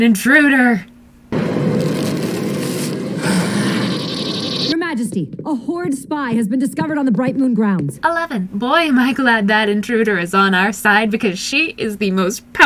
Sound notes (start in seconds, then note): 1.8 sinister, growling hiss